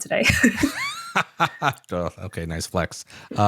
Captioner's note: laughter